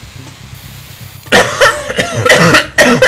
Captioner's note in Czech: kašlou